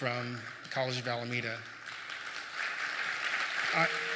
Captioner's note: applause